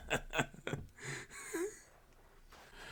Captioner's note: wheeze